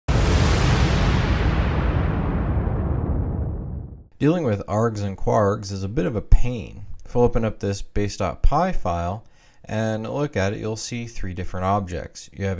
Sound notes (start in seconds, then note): 4.2 voiceover